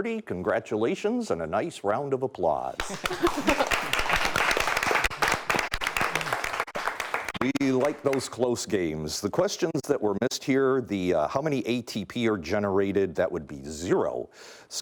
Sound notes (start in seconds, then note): 2.8 clapping